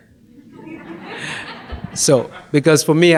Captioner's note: audience laughs